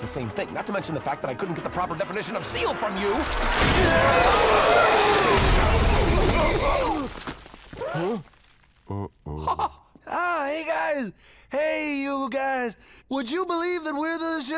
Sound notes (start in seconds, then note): 4.0 yelling and barking; 5.2 crashing; 8.9 laughs